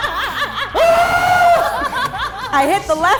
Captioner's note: everyone laughs; screams